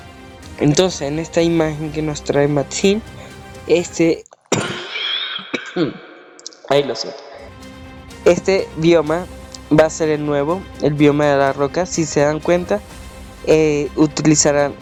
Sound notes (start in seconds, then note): 4.4 coughs